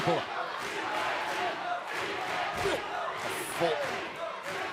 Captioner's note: crowd cheering